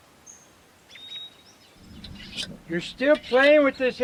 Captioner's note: birds chirping